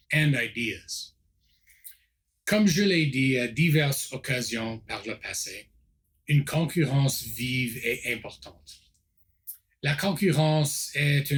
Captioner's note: repeats in French